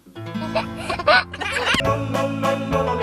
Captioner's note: laughs; upbeat accordion music